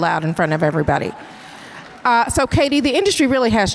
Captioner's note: audience cheers and applause